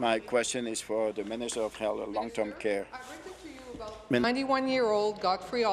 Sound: speaking in French

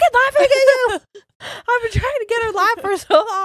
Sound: both laughing

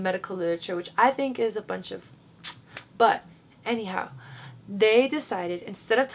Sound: clicks teeth

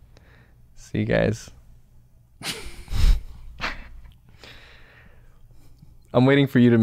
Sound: chuckles

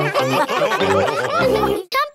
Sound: all laughing

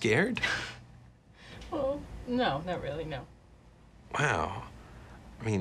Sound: chuckles

